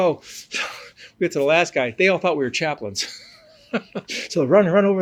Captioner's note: laughs